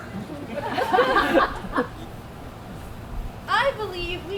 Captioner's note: audience laughs